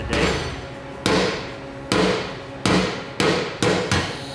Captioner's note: hammer banging